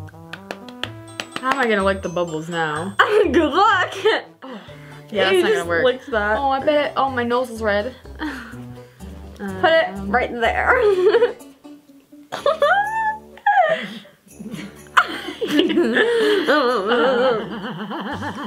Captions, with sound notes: - How am I gonna lick the bubbles now? - Good luck! - Yeah, it's not gonna work. - Ew you just licked that. - Oh, my nose is red. - Put it right there. (laughing)